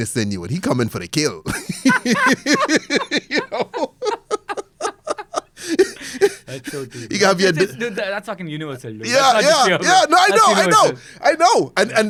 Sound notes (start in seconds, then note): 1.4 laughs